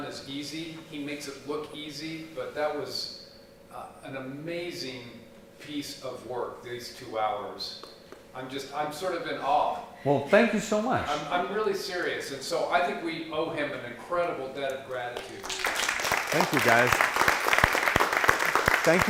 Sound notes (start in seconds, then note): 15.1 applause